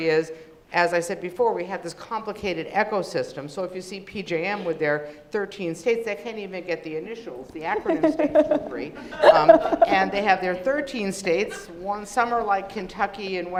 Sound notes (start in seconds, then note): 7.8 laughing